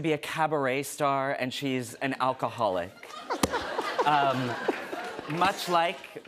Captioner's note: laughter